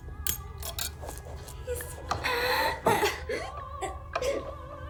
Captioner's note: sobbing